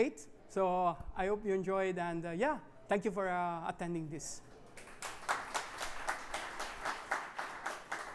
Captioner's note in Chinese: 掌聲